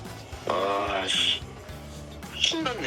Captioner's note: exclamation